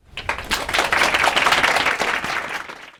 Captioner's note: applause